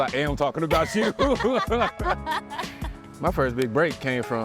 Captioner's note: both laugh